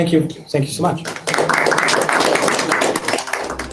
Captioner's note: applause